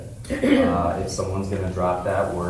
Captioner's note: person clearing throat